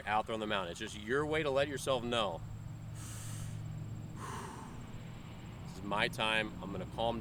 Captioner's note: breathes in, breathes out